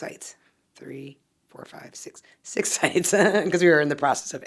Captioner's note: chuckles